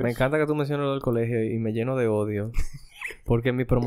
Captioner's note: laughs